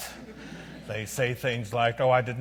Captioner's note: audience laughs